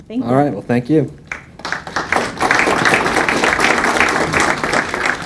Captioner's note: audience applauding